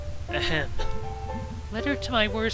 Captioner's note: ahem